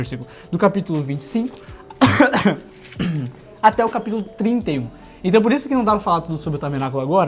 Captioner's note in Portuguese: tosse; limpando a garganta